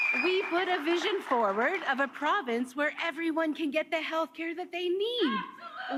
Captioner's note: cheers and Applause